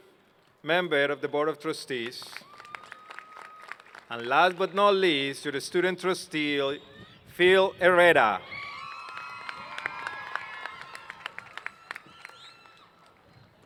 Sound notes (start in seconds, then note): 2.0 applause; 8.8 applause